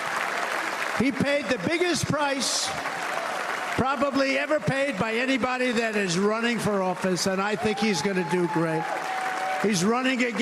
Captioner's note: cheers and applause